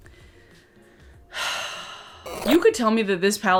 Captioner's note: deep sigh